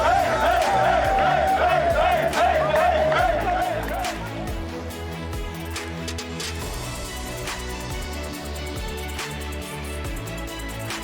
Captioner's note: applause